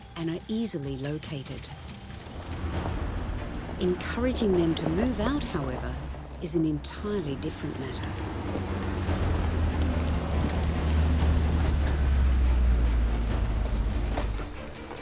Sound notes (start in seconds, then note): 9.1 car engine roars